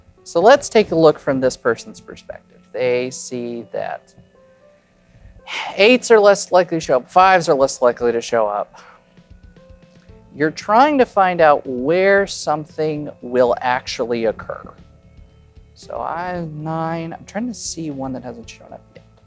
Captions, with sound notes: So, let's take a look from this person's perspective. They see that (sighs) 8's are less likely to show up. 5's are less likely to show up. You're trying to find out where something will actually occur. So, I have 9. I'm trying to see one that hasn't shown up yet